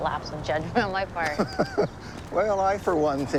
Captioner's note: Dad laughs